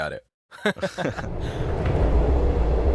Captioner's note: chuckles